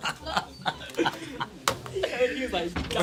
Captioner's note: students murmur